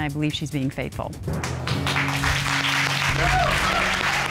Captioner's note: applause